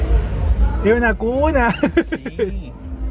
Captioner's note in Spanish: risas